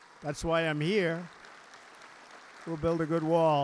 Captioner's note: applause